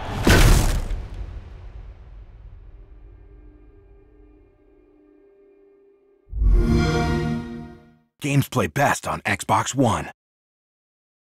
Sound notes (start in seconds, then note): 0.0 thud; 6.3 xbox sound